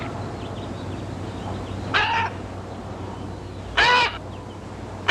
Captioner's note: bird squawking